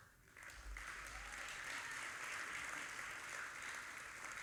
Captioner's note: audience applauding